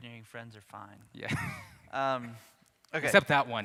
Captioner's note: laughs